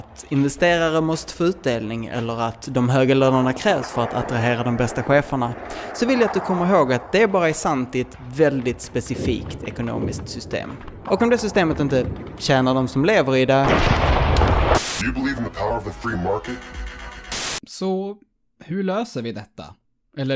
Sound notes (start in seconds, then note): 13.6 explosion; 13.7 white noise; 17.1 white noise